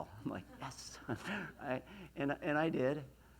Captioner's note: laughs